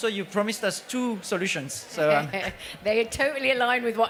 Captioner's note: laughs